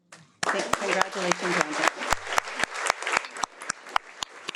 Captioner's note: audience applauding